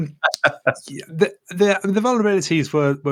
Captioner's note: laughs